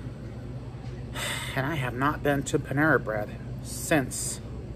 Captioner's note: normal voice